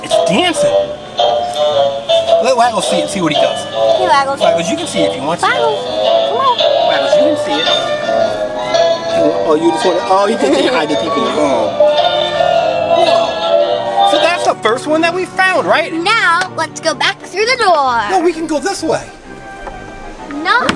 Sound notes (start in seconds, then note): 13.2 giggles